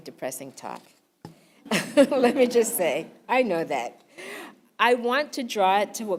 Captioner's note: laugh